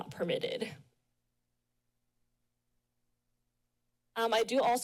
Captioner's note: pause